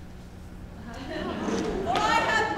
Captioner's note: audience laughs